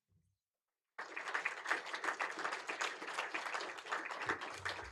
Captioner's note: applause